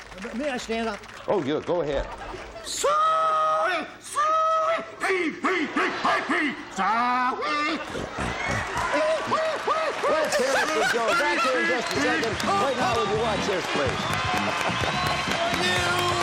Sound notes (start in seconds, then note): 6.1 pig calls; 7.7 grunting; 10.2 laughter and applause